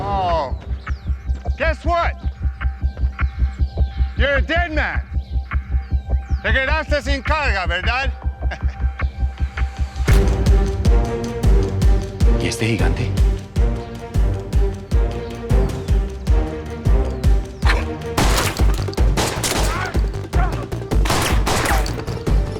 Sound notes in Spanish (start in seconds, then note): 18.1 Disparos; 19.6 Grito; 21.0 Disparos